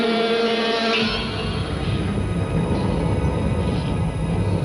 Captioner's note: eerie music; winds blowing